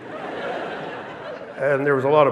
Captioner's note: audience laughing